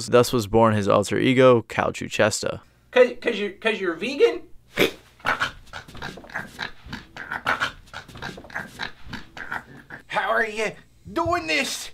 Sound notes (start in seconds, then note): 5.2 chokes